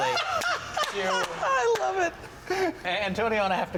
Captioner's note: laughs